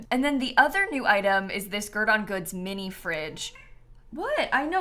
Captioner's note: meow